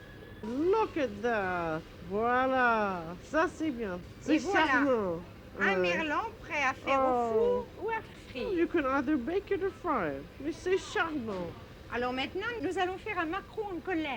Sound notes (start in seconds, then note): 3.2 conversing in french; 9.9 professor speaking french